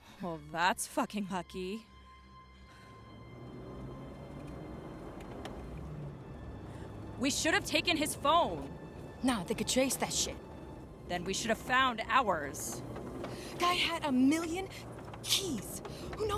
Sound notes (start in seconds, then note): 3.5 engine revving